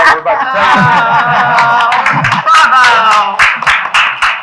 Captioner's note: people laughing; people clapping